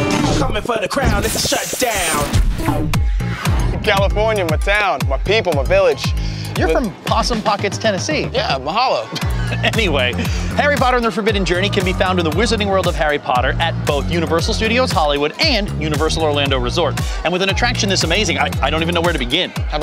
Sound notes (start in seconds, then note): 2.6 upbeat music; 9.1 chuckles